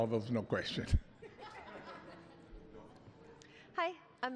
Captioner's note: laughter